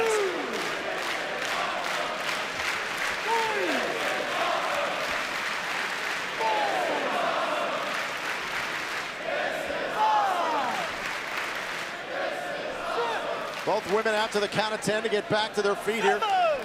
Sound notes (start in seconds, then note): 2.7 fans chanting